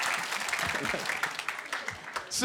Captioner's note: laughing